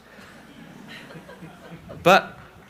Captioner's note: crowd laughing